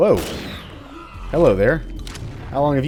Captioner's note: Shadow Ball Humming